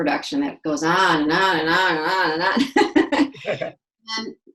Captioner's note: laughs